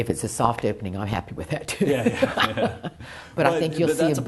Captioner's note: laughs